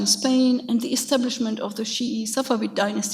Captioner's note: speaks a foreign language; speaks a foreign language